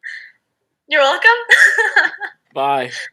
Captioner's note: laughing